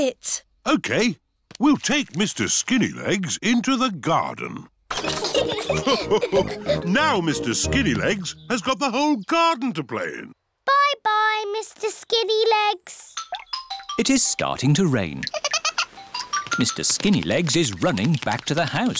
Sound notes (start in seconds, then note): 5.0 all laugh; 15.2 giggles